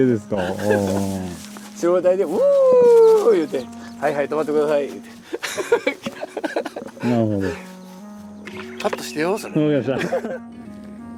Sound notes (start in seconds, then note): 5.2 laughs